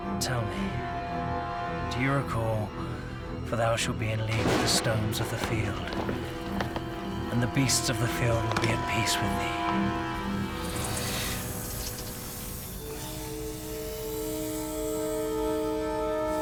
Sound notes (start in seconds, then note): 10.6 slithering